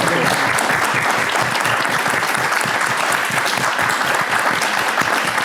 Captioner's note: audience applauding